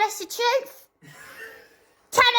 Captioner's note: wheeze